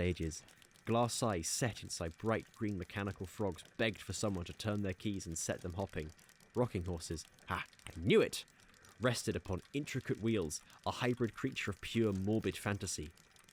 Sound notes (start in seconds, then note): none